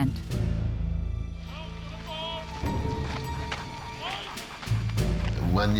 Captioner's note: man speaking German